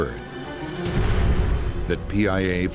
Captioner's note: sinister music; whooshing